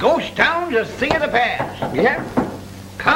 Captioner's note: knocking